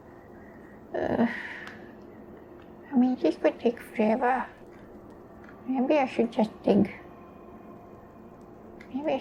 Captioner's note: sigh